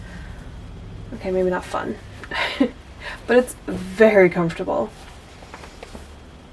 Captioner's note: laughs